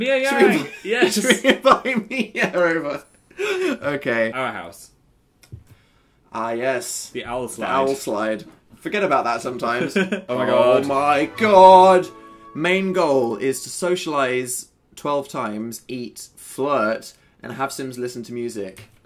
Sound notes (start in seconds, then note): 0.9 laughing; 3.3 still laughing; 9.9 laughs